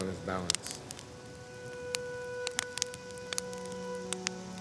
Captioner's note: fire crackling